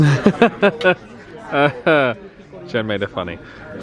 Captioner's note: chuckling